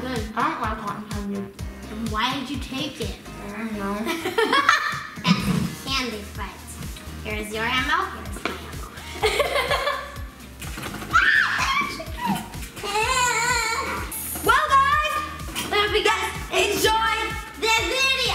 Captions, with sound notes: This is good. - I don't like cotton candy. - Then why did you take it? - I don't know. (laughing) - Candy fight. Here's my ammo, here's my ammo. (screams and shouts) - Well guys, I hope you-- - Enjoyed the video!